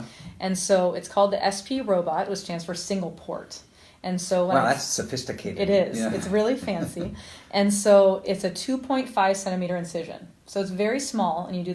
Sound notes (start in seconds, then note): 5.9 laughs